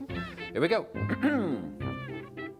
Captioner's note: clears throat